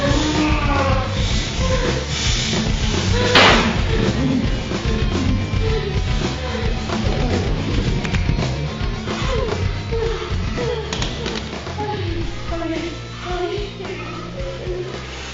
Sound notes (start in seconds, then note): 3.3 gun firing; 13.3 whimpering